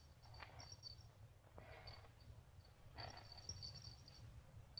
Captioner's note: bells jingling